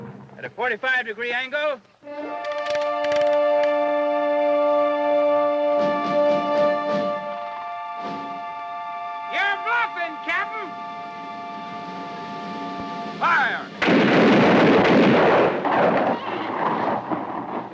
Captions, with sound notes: - At a 45-degree angle. - You're bluffin', Captain! - Fire! (guns fire)